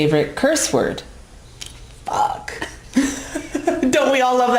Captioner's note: laughs